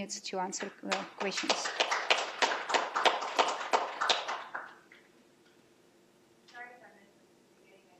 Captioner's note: applause